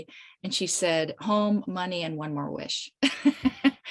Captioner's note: chuckles